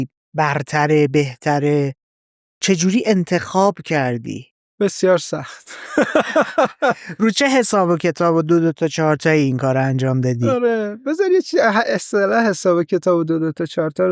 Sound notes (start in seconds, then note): 5.6 laughs